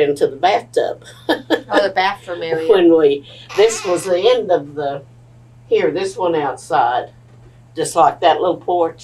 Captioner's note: laughs